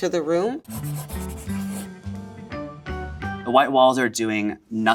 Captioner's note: upbeat music; graphic scratching